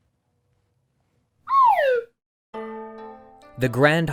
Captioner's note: whistle sliding